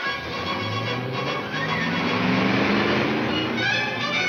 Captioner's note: car engine revs